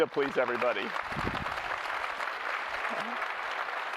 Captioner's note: applause